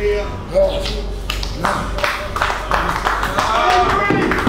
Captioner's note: applause